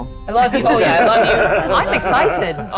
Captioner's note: participants laughing